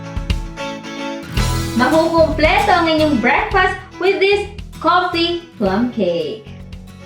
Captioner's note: pound